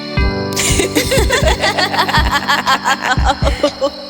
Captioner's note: Terrina and Bailynn laughing, reverb